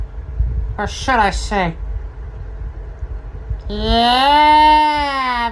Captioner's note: imitating Austin Powers; snickers